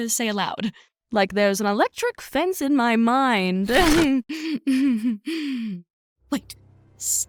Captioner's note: laughs